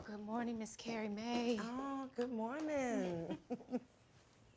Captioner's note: both chuckle